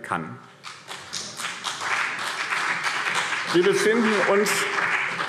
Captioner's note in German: Beifall BÜNDNIS 90/DIE GRÜNEN und CDU